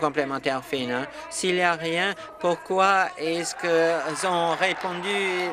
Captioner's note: applause